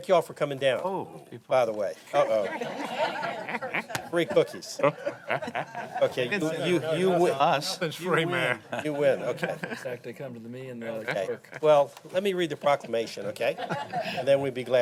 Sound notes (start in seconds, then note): 2.2 laughter